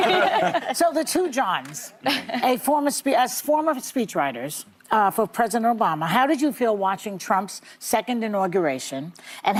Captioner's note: laughter